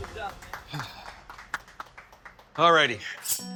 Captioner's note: people clapping